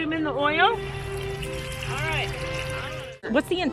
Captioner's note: oil sizzling